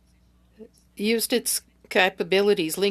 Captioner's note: speaking French